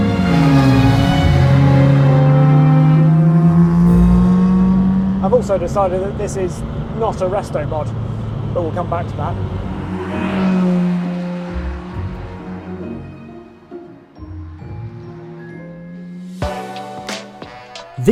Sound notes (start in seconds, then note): 9.4 dramatic music; 9.8 engine revving; 16.4 upbeat music